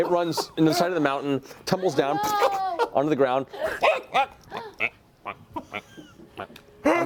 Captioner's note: duck sounds